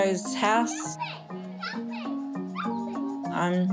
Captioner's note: kids chatter playfully